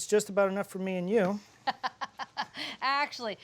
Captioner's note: laughs